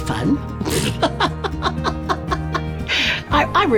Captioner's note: laughing